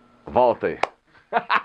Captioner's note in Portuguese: Risos